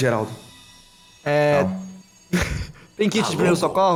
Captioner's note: laugh